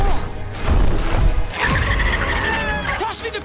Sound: screeching

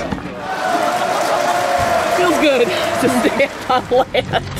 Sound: applauding

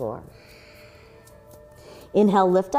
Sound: exhaling

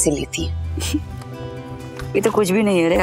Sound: chuckling

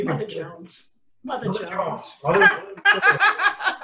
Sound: laughter

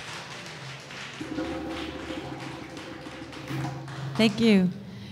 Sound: audience applause

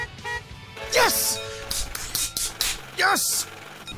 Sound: clapping

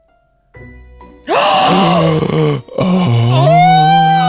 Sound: gasping; screaming

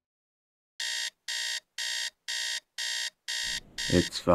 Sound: alarm sounds

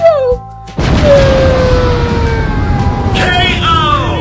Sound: explodes

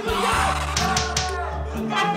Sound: slapping x3

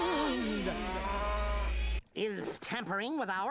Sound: cow mooing

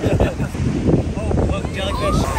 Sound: laughing

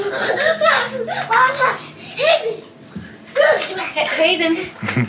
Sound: babbling

